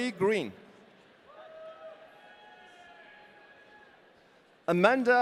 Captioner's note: audience cheering